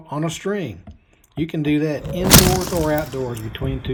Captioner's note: balloon whooshing